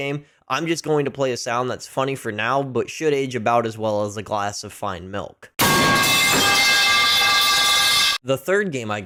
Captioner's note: pipe falling sound